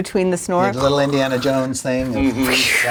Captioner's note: imitates snoring